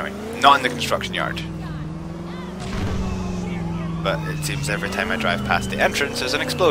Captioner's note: explosion